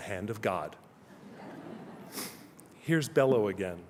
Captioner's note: laughter